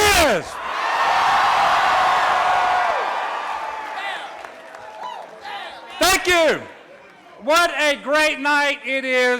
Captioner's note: applause